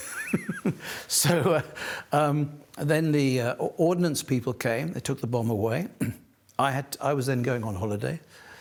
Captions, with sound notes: So... [chuckles] Then the ordnance people came. They took the bomb away. I was then going on holiday.